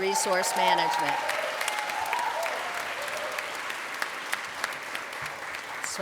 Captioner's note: applause